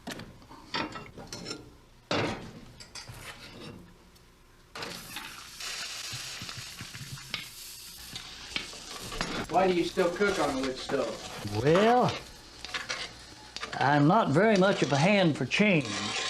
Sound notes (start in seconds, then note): 5.9 water sizzles